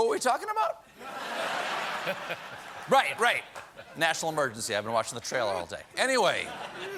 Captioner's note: laughter